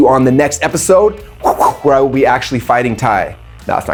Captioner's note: swishing sound